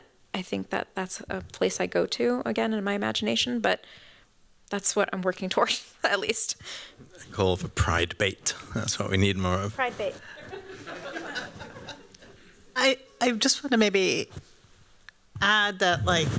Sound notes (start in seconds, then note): 10.2 laughter